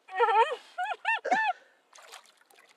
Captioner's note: laughs